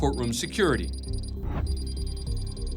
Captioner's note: computer beeps